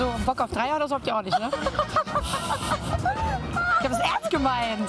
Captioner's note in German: Frau lacht